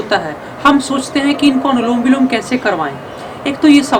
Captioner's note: alternate nostril breathing